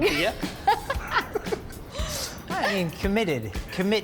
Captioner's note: group laughs